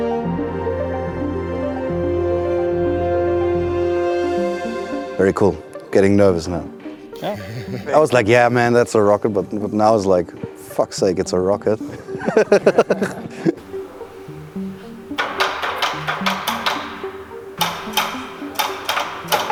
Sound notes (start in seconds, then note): 12.0 everyone chuckles; 14.9 machine clacks